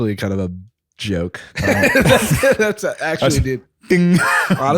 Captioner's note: laughs